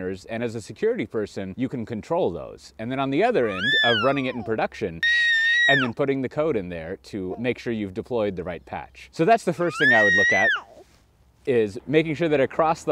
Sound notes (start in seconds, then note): 5.0 screams